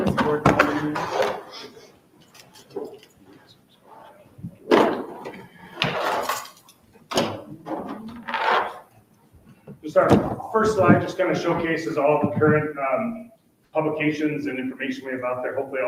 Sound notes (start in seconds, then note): 0.0 object clattering drowns out speech; 5.7 object clattering loudly